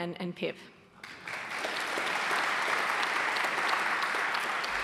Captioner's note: audience applauding